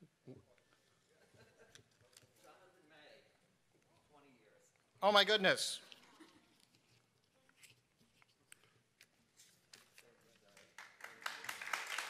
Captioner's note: applause